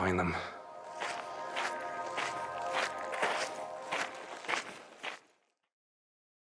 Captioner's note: footsteps